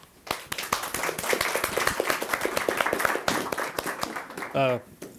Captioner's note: audience applauding